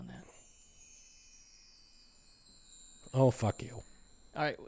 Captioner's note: tinkling sound effect